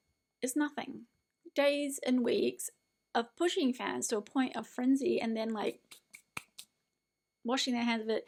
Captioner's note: brushes hands together